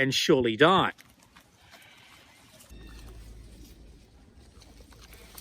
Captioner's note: koalas munching